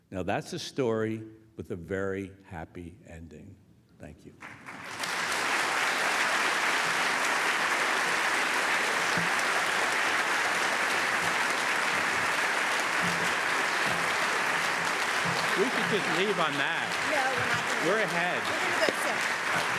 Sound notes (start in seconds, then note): 4.9 applause